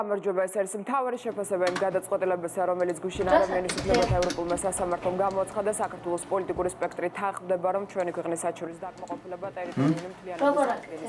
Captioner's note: newscaster voice